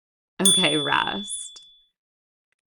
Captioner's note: chime